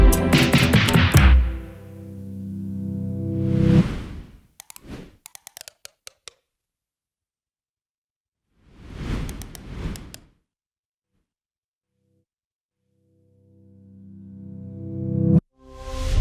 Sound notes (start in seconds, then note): 2.9 screen whooshes; 2.9 text clicking; 8.8 screen whooshes; 9.3 text clicking; 14.6 soft music